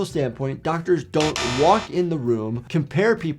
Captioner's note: bell buzzes